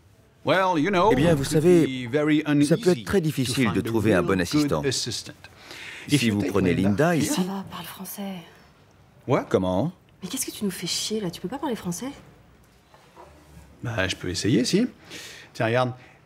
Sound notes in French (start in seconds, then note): 7.8 chuchoté